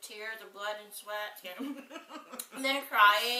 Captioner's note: laughs